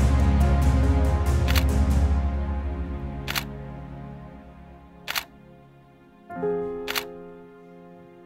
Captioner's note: sound of camera shutter